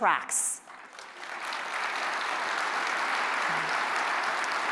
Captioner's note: applause